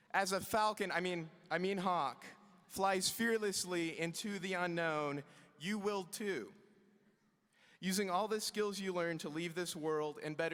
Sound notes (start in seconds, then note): none